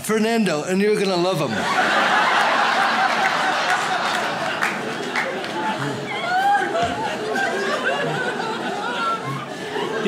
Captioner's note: audience laughs